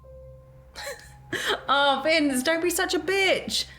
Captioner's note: laughs